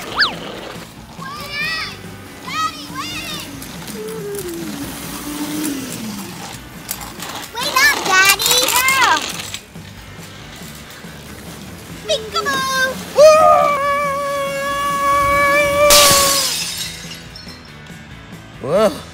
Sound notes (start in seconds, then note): 4.0 moped whirring; 11.8 upbeat music; 15.1 yelling; 15.8 glass shattering